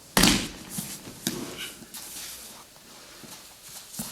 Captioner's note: loud thumping; soft shuffling